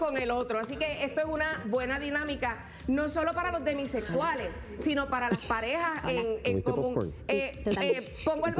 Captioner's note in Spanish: risas